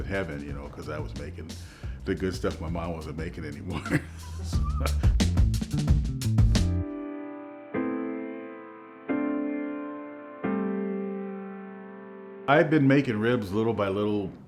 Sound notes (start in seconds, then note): 3.6 chuckles; 4.2 upbeat music